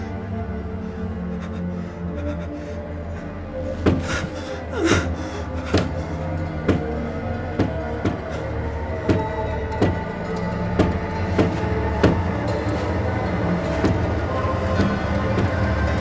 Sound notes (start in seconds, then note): 3.8 door slamming; 11.2 curtains rustling; 15.7 chair rocking